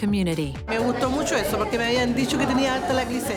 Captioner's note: speaking spanish